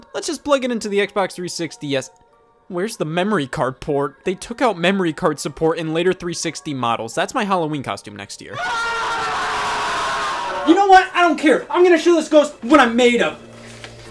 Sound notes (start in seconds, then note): 8.5 screaming